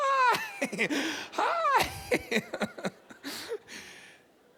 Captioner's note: chuckles